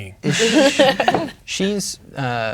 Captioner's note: players laughing